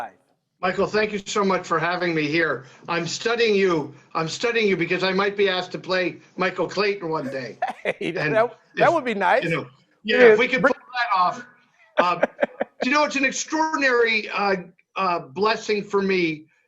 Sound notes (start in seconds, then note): 7.2 laughs; 11.9 laughs